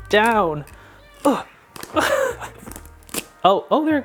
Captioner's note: groaning and laughing